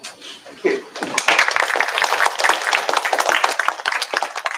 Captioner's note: applause